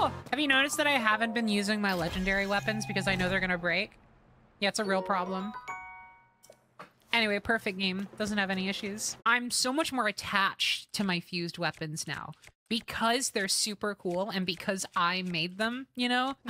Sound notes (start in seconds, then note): none